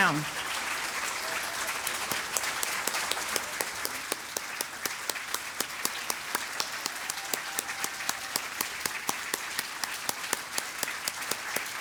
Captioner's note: applause